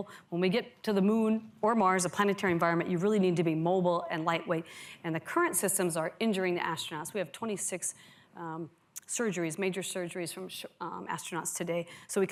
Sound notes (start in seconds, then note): none